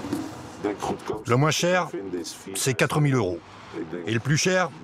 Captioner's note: Dutch spoken audio